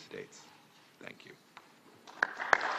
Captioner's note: applause